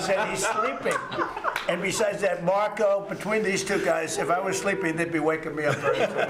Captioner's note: laughter